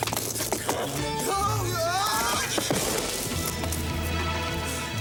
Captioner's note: Nick wailing